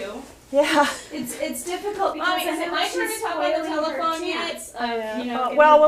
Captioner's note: rambles